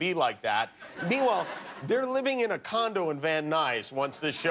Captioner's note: laughter